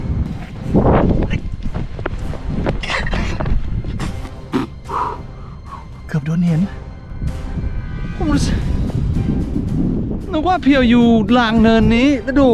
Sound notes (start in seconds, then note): 3.9 spitting sound; 3.9 sighs